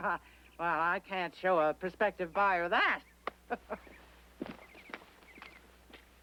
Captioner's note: chuckling